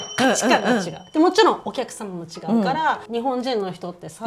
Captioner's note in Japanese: 咳払い